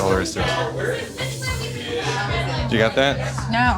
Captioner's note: chatter